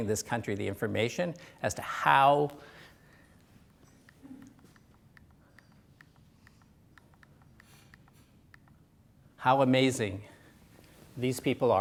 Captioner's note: pause